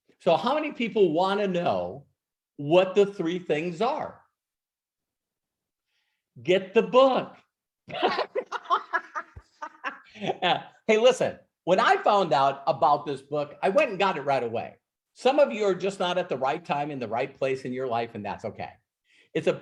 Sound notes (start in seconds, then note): 7.9 laughs